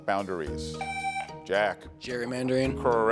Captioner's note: buzzer sounding